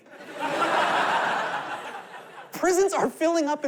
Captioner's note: laughter